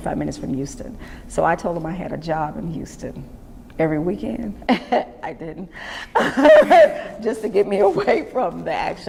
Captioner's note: laughs